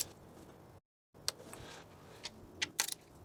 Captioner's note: click